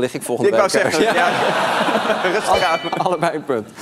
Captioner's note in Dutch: gelach